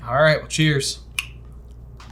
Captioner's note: none